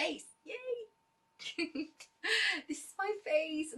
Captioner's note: laughter and giggles